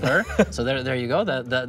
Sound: Toast chuckles

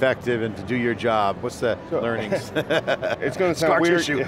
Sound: laughing

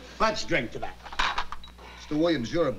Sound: glass clanking

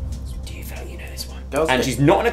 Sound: whispers

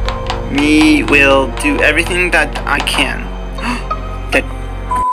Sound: gasp

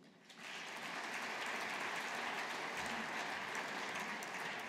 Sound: audience applauding

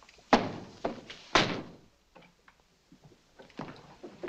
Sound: door slams

